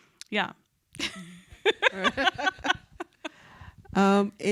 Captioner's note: laughs